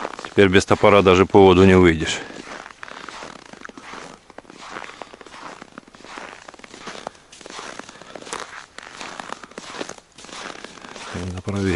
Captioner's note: steps